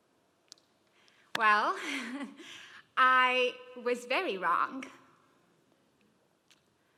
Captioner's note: laugh